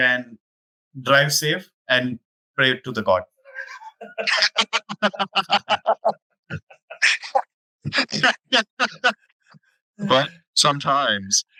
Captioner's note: laughs